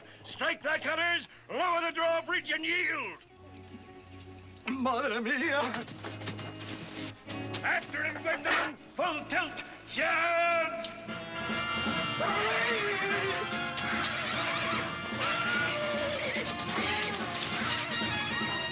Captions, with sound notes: STRIKE THY COLORS, LOWER THE DRAWBRIDGE AND YIELD. MADRE MIA. AFTER HIM, GWENDOLYN, FULL TILT! CHARGE! ( screaming ) ( horse neighing fiercely )